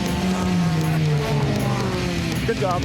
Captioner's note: cars speeding